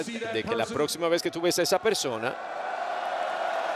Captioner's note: applause